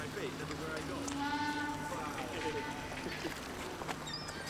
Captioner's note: boat horns blows in background